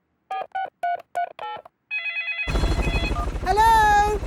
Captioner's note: dialing; phone ringing